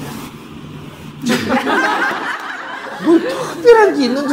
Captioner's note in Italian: risate del pubblico